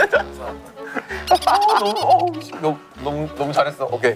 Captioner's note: laughing